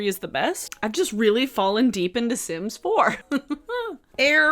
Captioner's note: laughs